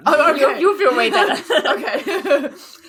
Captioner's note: laugh; laughs